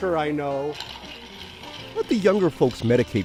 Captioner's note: ice rattling